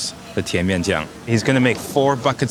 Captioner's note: speaking in foreign language